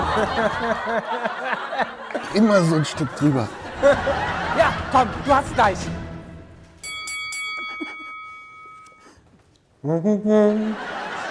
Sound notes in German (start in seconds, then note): 0.0 Lachen; 6.5 Treibende Musik